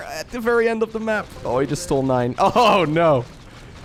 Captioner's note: chuckles